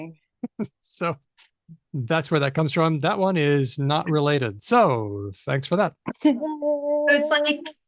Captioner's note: laughs